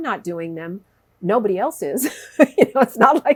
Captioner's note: laughs